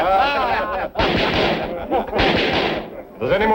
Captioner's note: pounding gavel